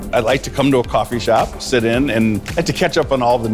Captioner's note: laughs